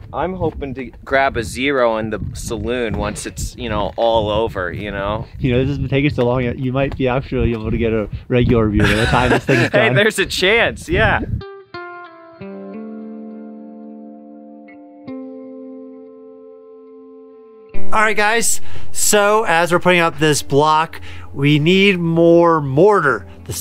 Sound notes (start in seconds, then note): 8.8 laughing; 11.7 mellow music